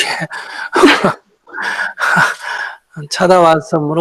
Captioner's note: questioner Laughter